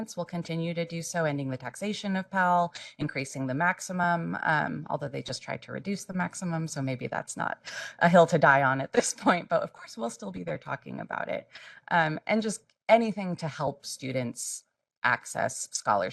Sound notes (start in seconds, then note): 9.1 laugh